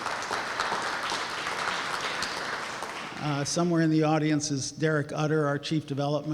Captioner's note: applause